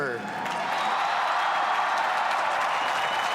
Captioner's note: applause